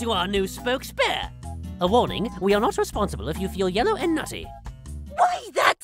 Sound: on TV, speaking fast

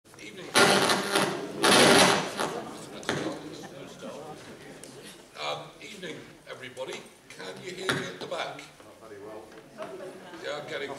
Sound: interference from microphone

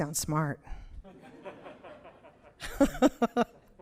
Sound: audience laughs; laughs

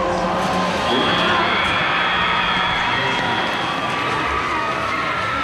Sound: buzzer; cheering

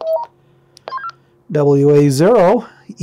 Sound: radio beeping

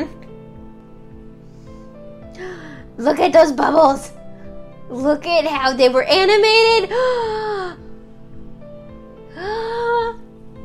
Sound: gasp

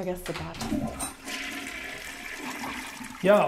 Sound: toilet flushing

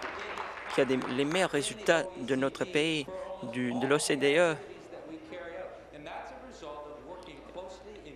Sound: applause

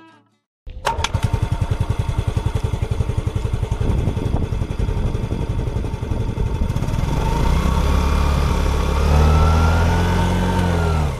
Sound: exhaust Note

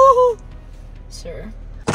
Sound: laughing

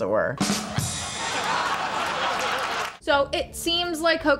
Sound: rim shot; canned laughter

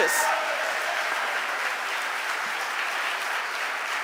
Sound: audience applauding

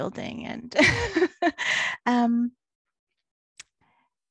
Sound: laughs

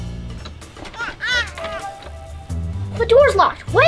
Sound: baby babbles

